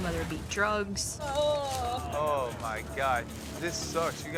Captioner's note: groans